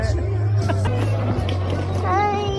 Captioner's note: laughs; murmuring